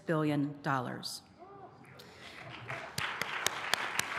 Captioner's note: applause